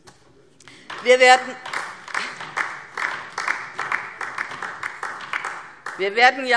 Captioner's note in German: Beifall DIE LINKE